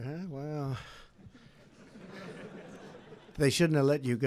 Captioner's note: laughter